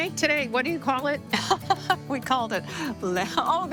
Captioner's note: laughing